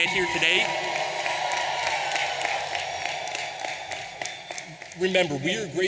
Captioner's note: audience applauding and cheering